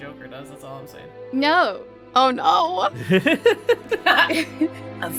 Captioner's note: laughs